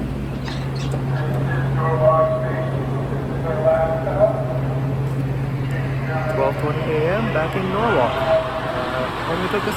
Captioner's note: operator on PA